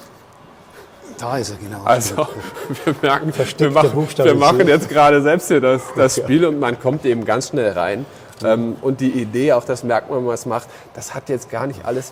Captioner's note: laughs